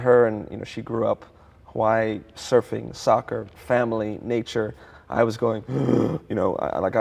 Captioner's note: gasp